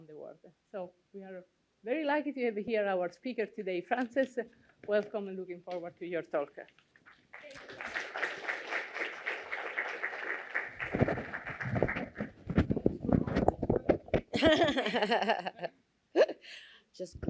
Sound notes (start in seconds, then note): 7.1 applause; 14.3 laughing